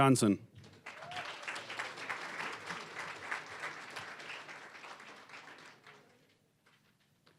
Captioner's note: applause